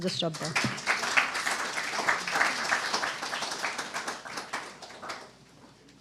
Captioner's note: applause